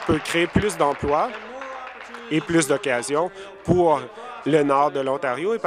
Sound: applause

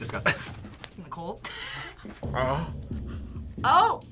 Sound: laughs

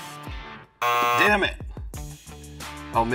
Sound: buzzer

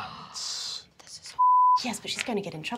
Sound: beeping

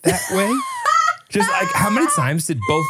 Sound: laughs

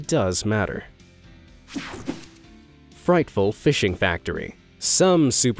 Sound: air whooshing

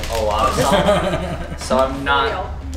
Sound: laughing

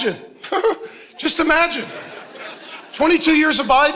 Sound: congregation laughing; chuckles

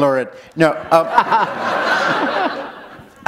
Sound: laughter

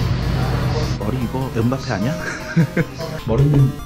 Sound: laughing

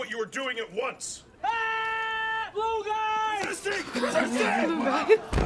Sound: screams

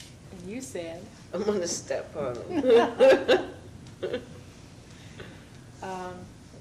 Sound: laughs

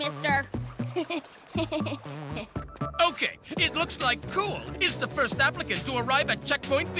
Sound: laughing

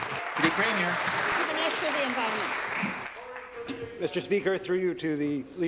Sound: applause

